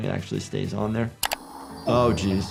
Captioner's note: click